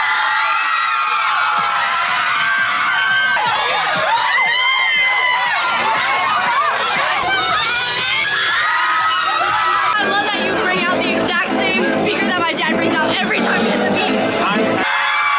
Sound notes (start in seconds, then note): 0.1 crowd cheering and screaming; 8.3 fans screaming